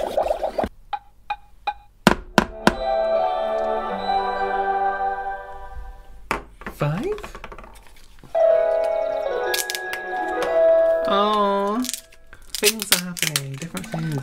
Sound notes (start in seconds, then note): 2.1 tap, Tap, Tap